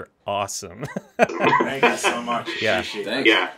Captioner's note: laughs